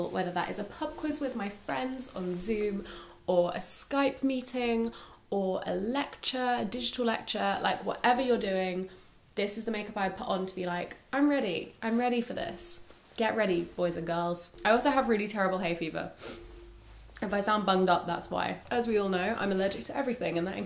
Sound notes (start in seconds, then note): 16.2 sniffing